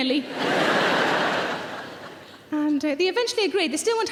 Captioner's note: audience laughs